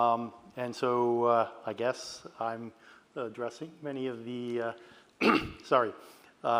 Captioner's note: clears throat